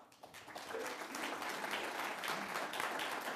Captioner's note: applause